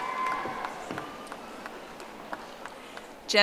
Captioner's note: audience applauding